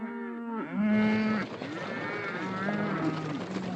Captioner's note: cattle mooing